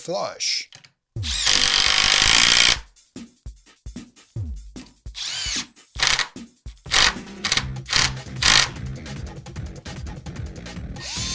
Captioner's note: drill noises